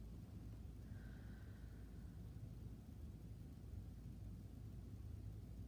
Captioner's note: breathing deeply